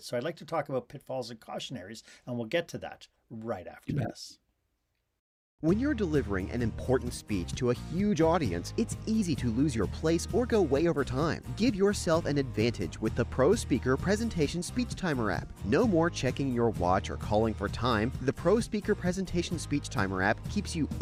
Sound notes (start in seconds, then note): 5.6 voiceover